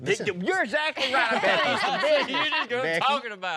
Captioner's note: guys laughing